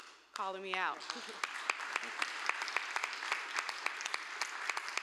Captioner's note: applause